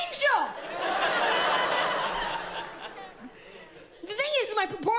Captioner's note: audience laughs loudly